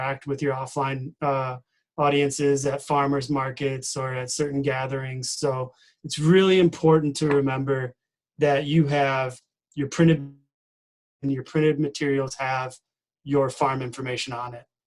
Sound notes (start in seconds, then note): 10.0 distorted speaking